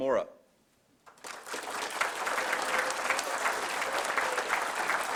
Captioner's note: applause